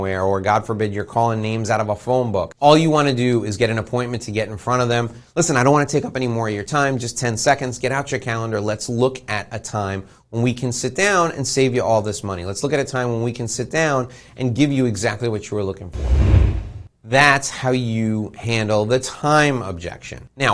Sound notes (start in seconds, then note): 15.9 air whooshing